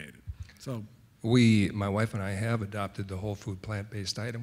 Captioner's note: voiceover